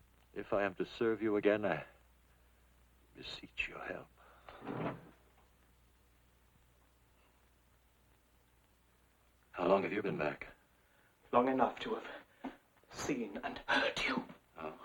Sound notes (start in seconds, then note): 4.5 desk clattering